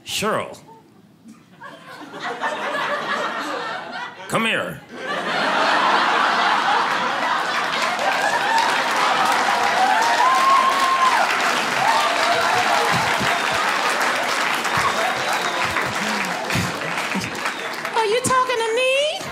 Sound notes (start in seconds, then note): 1.6 audience laughing; 5.3 audience applauding